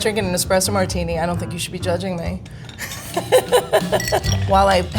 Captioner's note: laughs